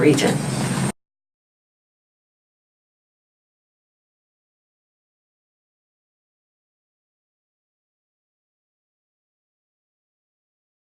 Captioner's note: silence